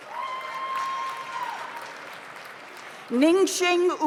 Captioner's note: audience cheers; audience applauds